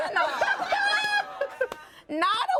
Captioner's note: everyone laughs